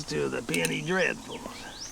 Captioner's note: scoffs